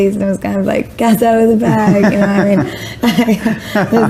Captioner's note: laughs